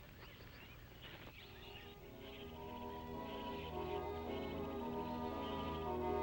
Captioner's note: birds chirping; gentle music